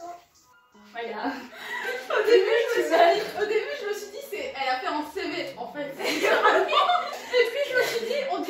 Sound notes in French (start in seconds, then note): 1.5 Rire; 6.0 Rires et phrases inaudibles